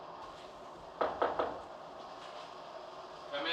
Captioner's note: knocking